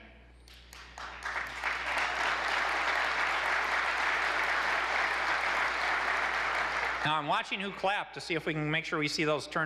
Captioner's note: applause